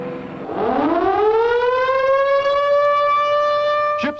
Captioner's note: siren blaring